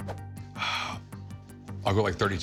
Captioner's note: sighs